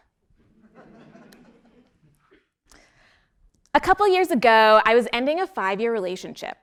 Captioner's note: laugh